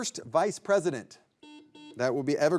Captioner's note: buzzer buzzing